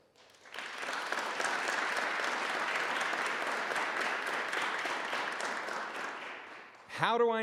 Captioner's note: applause